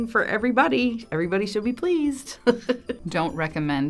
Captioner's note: laughs